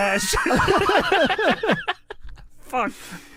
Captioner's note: da bois laughing